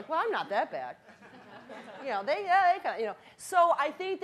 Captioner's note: audience laughing